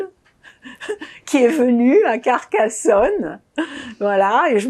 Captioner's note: laughing